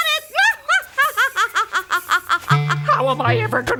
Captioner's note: laughs